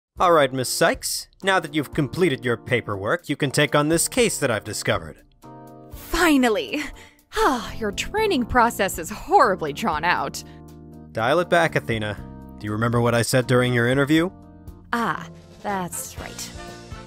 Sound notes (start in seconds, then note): 7.3 sigh